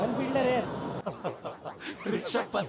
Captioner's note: laughing